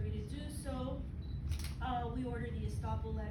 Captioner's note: camera shutters